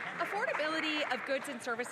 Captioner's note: some Applause